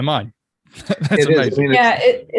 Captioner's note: laughing